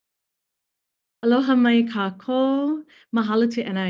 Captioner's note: speaks in foreign language